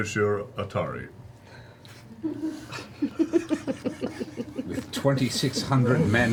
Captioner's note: all laugh